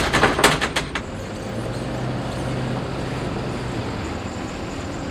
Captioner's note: truck driving by, honking